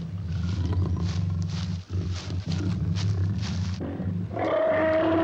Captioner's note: lion growls; elephant trumpets